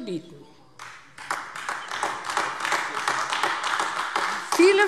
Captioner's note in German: Beifall AfD